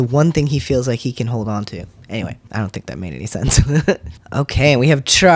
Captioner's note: laugh